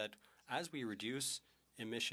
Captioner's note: speaking French